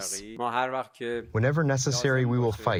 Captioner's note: through translator